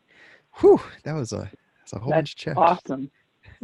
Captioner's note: sigh